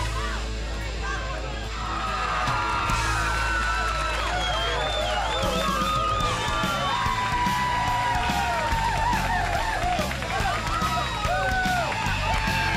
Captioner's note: crowd cheering